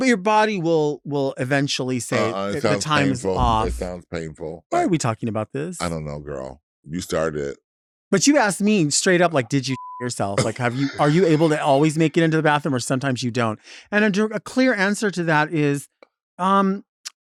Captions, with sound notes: - Your body will will eventually say- - Ah-ah. It sounds painful. - If the time is off - It sounds painful. - Why are we talking about this? - I don't know, girl. You started it, - But you asked me straight up like, "Did you (beeps) yourself? Like are you able to always make it into the bathroom or sometimes you don't?" And a clear answer to that is,